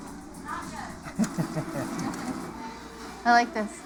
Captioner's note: chuckles